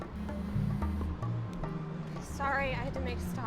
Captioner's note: cellphone buzzing